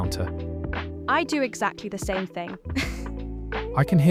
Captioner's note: laughs